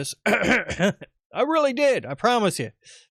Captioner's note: clears throat